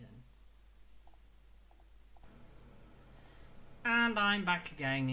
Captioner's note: heater turns on lol its cool